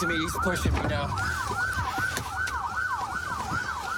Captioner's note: sirens blaring